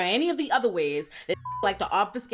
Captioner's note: beep